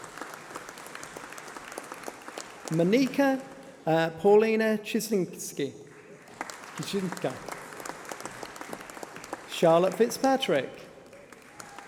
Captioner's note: applause